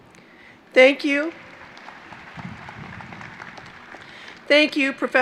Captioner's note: applause